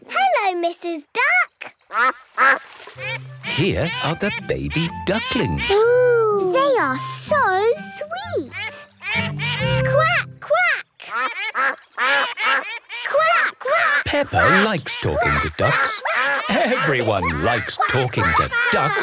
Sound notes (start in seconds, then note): 2.9 quacks; 8.4 all laugh; 11.0 quacking